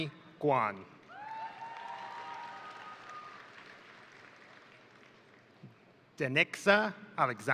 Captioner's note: crowd applauding; crowd cheering